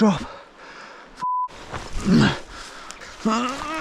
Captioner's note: grunting